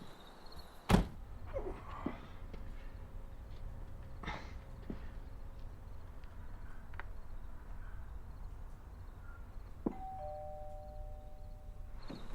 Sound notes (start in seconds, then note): 9.9 doorbell rings